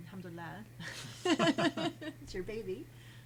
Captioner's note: group laughing